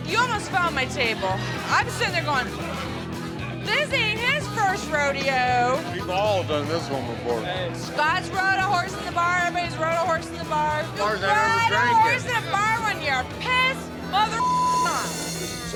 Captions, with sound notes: - You almost found my table, I'm sitting there going. This ain't his first rodeo. - We've all done this one before. - Scott's brought a horse in the bar. Everybody's rode a horse in the bar. Ride a horse in the bar one year, pissed (beep) on.